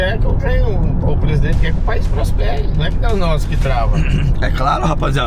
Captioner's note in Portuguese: limpando a garganta